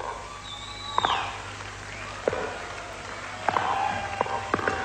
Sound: audience cheering

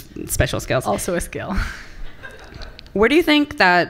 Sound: laughter from the audience

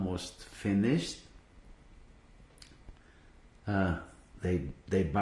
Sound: pauses for 3 seconds

